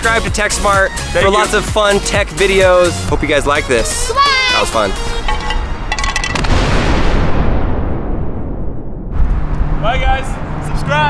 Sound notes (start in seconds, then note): 5.2 plastic rattling; 6.3 explosion